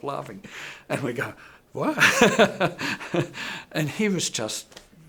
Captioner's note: laughing